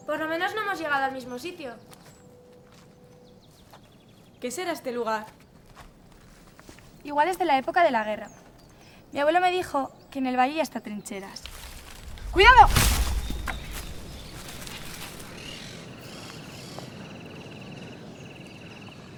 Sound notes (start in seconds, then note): 11.4 branch falling down; 15.4 crow